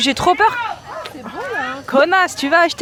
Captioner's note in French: une dame crie